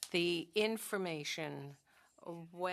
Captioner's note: speaking French